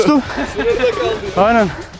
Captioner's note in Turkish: Gülüşmeler